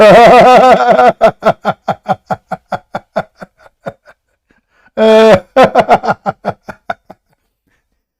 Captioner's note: Ketawa